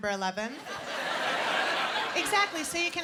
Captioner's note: laughter